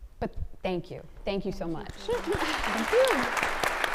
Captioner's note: audience claps; both laughing